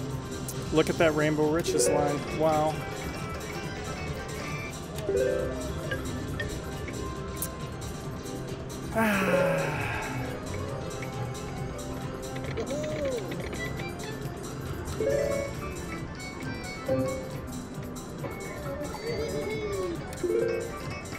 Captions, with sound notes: Look at that Rainbow riches line, wow. (sighs) (machine beeps)